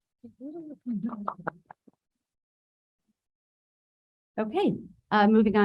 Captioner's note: board member speaks distorted